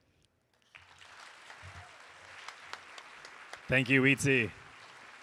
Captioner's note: audience applauding